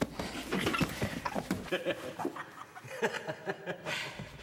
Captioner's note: laughing